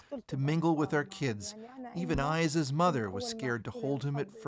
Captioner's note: speaking alternate language